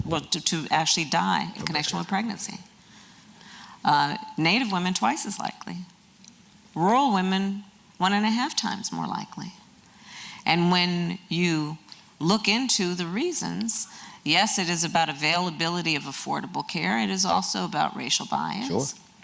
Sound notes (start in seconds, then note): none